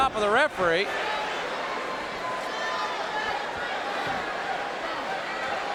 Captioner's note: audience cheering